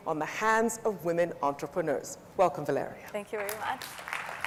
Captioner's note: audience applauds